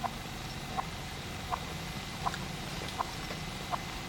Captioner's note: clock ticking